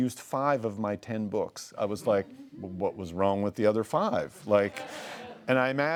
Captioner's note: laughing